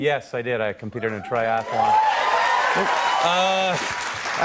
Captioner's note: cheers and applause